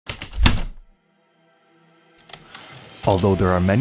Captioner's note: heavy typewriter keystrokes then return slide